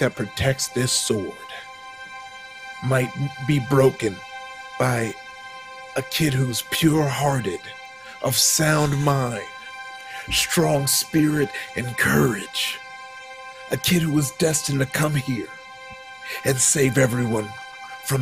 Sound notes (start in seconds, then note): none